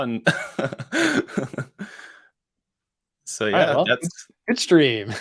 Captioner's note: laughs